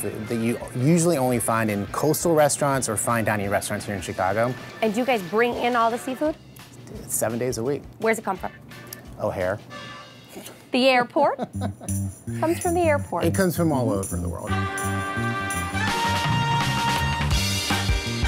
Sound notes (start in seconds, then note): 11.2 laughs; 15.4 swanky music